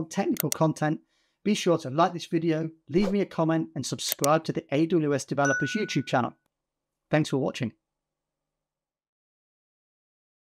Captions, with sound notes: technical content, (graphic clicking) be sure to like this video, leave me a comment (graphic whooshing) and subscribe (graphic clicking) to the AWS Developers YouTube channel. (graphic chiming) Thanks for watching.